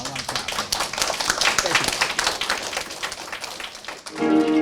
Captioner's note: applause